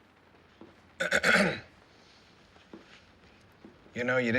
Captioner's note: clears throat